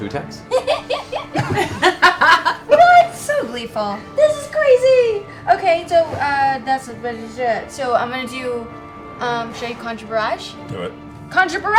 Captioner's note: giggles